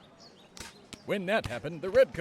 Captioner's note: multiple shots heard